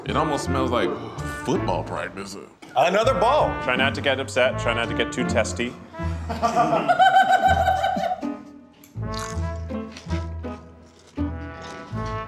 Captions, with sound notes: - It almost smells like football practice. - Another ball. - Try not to get upset, try not to get too testy. (laughs)